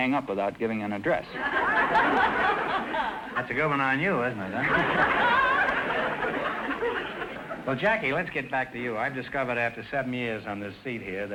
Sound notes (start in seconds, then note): 1.3 audience laughter